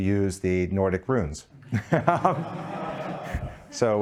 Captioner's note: laughing